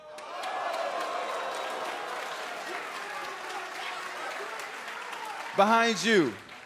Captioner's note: crowd cheering